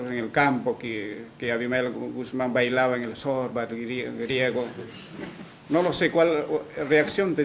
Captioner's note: risas